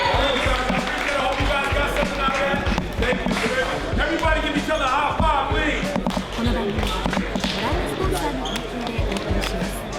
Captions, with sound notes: (crowd applauds) Everybody give each other a high five, please. (crowd chattering)